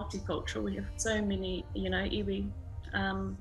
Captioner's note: speaks Maori